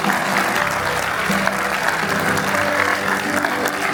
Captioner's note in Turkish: alkış